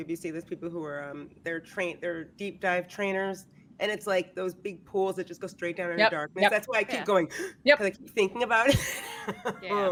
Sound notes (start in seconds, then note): 7.4 gasps; 9.4 laughs